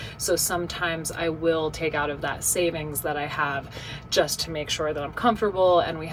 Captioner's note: none